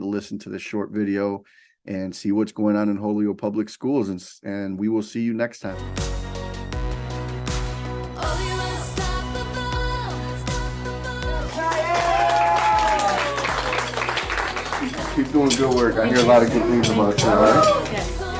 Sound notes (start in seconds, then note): 6.2 soft upbeat music; 11.5 students applauding and whooping